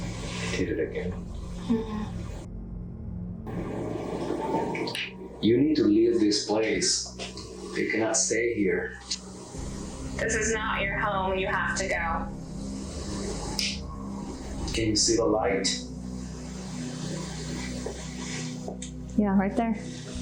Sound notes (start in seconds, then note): 4.4 wind and clicking noises; 13.6 clicking noises